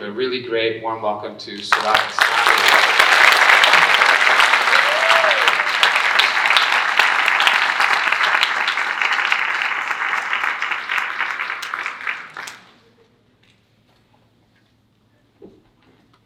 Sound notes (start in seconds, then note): 2.8 audience applauding